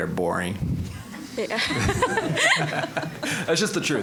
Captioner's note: audience laughing